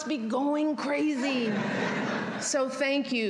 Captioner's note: laughter